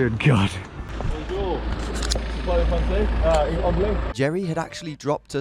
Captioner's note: engine running